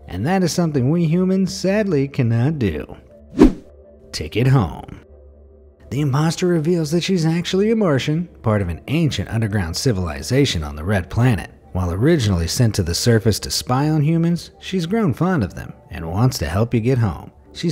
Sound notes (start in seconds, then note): 3.3 air whooshing